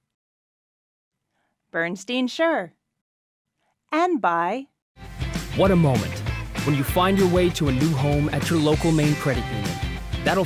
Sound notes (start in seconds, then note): none